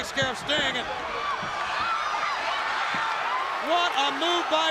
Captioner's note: crowd cheering